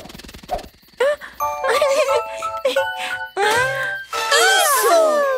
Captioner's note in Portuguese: Risos